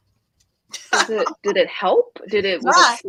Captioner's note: laughs